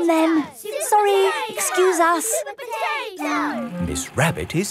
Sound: children chanting

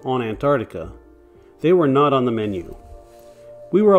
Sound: whew!

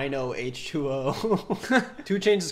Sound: chuckles softly

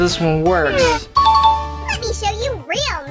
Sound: bell dings

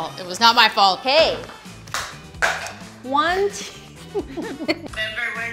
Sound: laughs

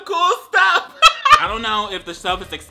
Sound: laughing

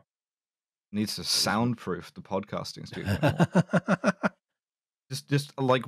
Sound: laughs

